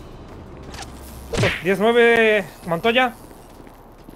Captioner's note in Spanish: Zumbido de táseres